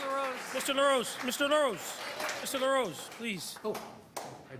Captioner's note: applause